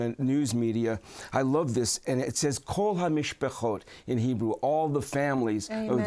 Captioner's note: speaking hebrew